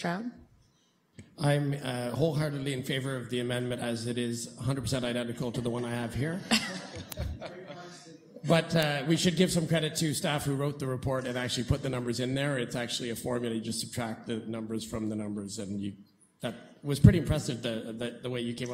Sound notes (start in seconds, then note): 6.4 chuckling